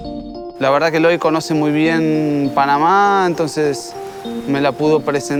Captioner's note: speaking Spanish